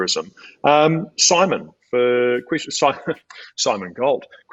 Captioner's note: laughs